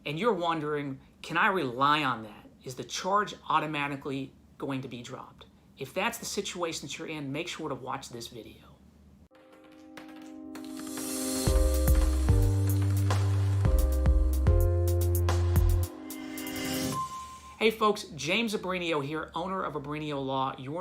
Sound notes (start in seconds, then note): 9.9 dice clattering; 11.4 calm music